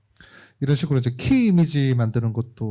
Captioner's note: speaking korean